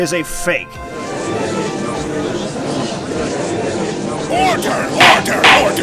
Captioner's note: gallery chattering; gavel slams!